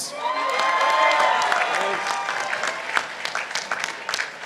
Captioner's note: participants applauding